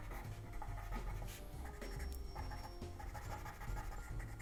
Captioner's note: pencil scratching